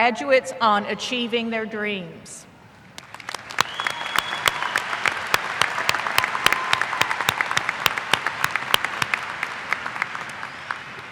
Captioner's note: applause